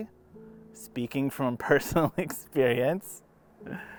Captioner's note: laughs